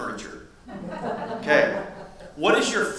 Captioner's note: audience laughs